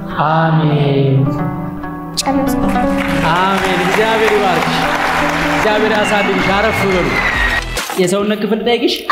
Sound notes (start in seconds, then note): 2.6 applause